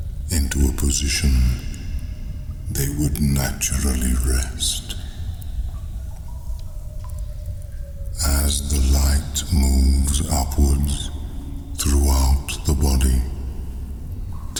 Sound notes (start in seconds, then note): 5.6 cave noises